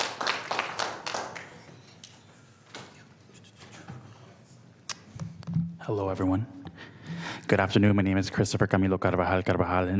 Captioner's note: applause